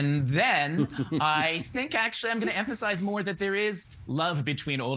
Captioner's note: laughing